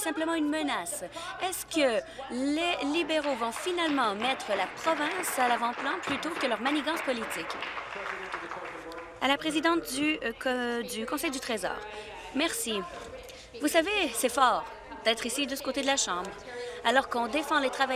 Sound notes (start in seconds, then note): 7.7 applause